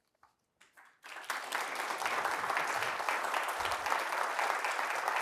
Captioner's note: applause